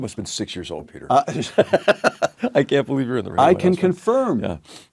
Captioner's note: laugh